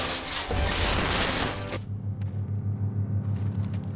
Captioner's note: robot whirring; sparks hissing; suspenseful music